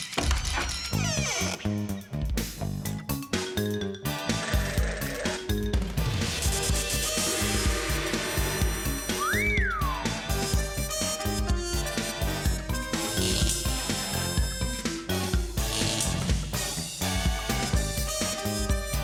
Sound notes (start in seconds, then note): 9.1 whistles